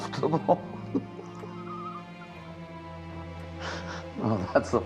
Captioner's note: Frank laughing